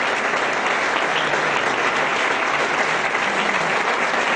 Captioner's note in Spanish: aplausos